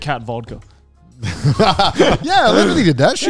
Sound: everyone laughs

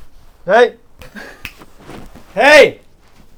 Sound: snap

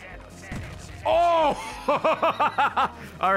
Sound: laughs

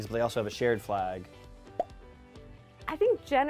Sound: pop

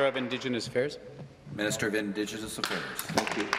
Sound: applause

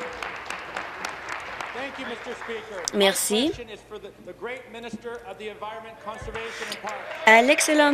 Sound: applause

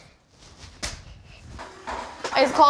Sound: hands slap

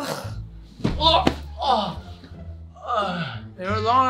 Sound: man groans in pain; woman groans

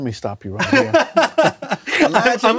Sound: laughs

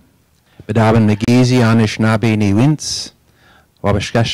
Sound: native tongue spoken

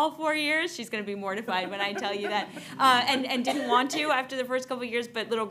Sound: laughter

